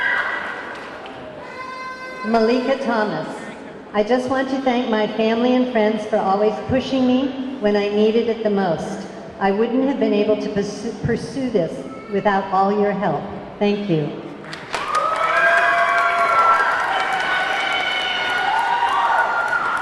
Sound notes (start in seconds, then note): 1.5 horn blaring; 14.4 audience clapping; 14.5 audience cheering